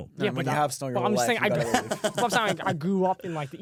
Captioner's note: laughs